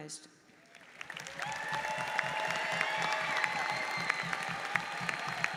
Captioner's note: audience cheers and applauds